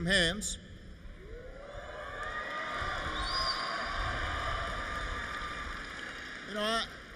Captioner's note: applause